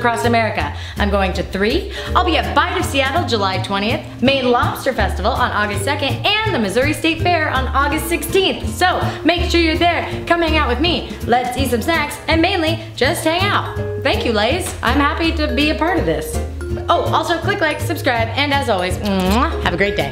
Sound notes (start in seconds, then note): 19.0 kissing noise